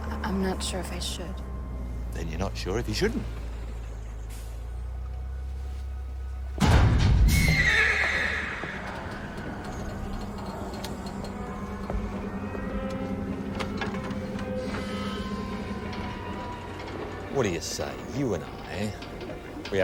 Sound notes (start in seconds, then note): 6.6 metal clanks; 7.3 horse neighs